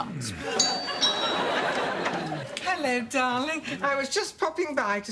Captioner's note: doorbell